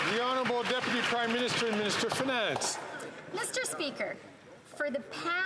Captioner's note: some Applause